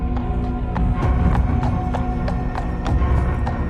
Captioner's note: hoofbeats clomping